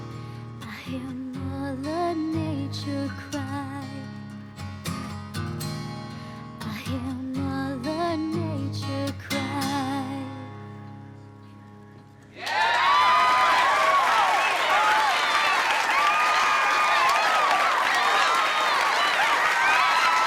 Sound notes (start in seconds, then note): 12.3 crowd clapping and cheering